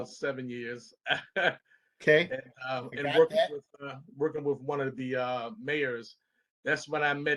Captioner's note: laughter